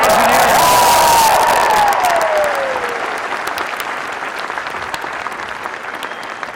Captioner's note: crowd cheering and applause